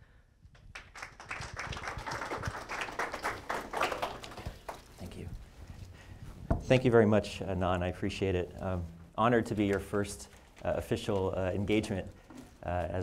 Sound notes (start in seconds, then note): 0.5 audience clapping